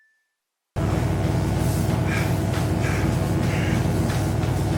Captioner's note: bell dings; electric buzzing